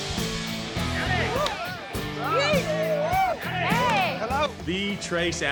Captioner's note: cheering